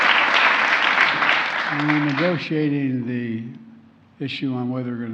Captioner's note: applause